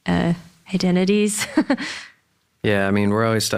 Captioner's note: laughs